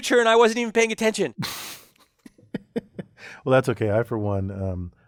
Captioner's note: laugh